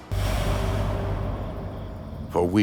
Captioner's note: air whooshes